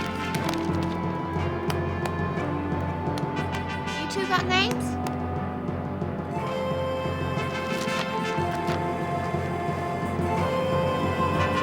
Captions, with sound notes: (clapping) - You two got names?